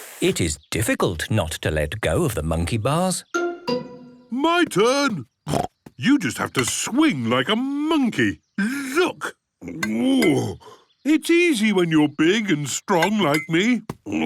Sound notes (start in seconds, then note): 5.5 snorts; 9.4 grunts